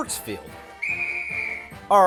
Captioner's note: whistle!